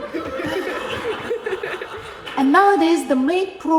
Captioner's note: audience laughing